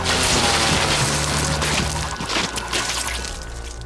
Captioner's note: blood sloshing